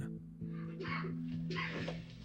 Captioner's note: man coughing in recording